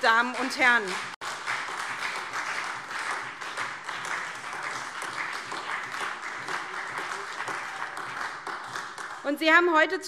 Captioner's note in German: Beifall SPD